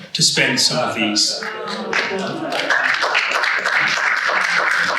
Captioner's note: audience applauds